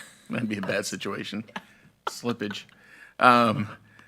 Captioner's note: laughs